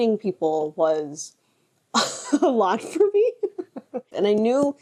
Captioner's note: laughs